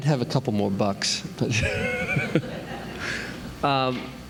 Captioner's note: laughter